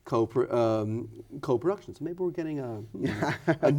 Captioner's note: laughs